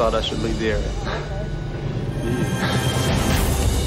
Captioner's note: chuckles